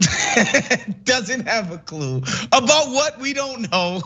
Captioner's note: laugh